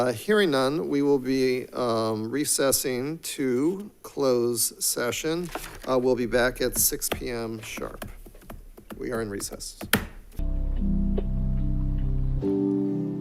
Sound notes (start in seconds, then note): 9.8 gavel striking; 10.4 soft music